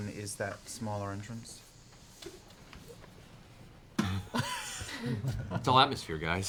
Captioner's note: noise of hissing gas